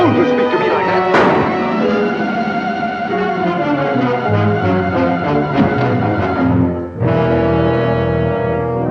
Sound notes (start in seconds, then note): 1.1 gun bangs; 3.3 dramatic instrumental music